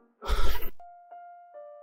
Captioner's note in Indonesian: Menghela napas